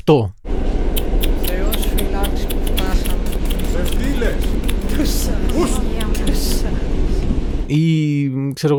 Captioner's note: soundscape in a subway car with old people jeering in uniquely Greek ways